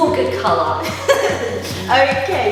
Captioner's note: laughing